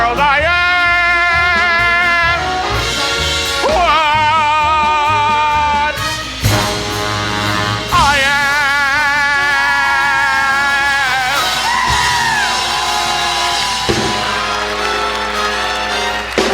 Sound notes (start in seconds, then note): 9.6 audience cheering and applauding